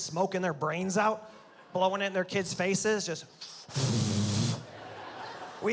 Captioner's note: blows